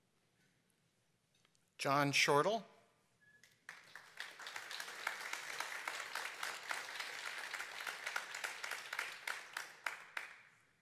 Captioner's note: applause